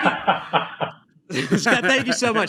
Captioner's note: laughs